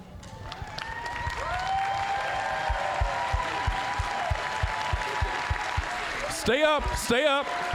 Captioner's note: applause, cheering